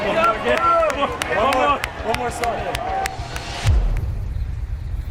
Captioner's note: cheering